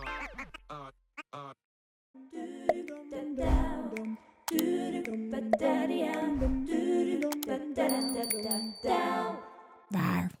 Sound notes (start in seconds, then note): 0.3 upbeat music; 4.0 bubble popping; 4.5 key clicking; 7.8 bell ringing; 8.0 key clicking